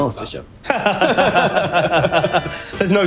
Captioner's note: laughs